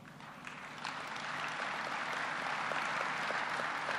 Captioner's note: applause